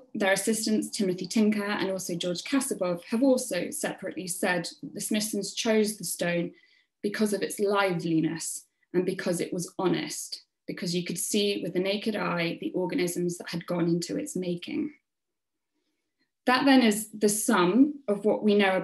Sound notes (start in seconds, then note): none